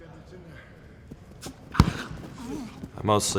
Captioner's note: bag thuds